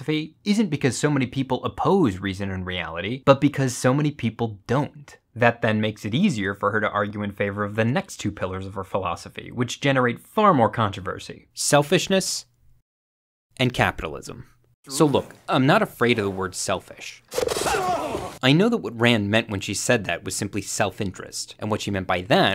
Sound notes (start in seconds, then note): 17.6 men shout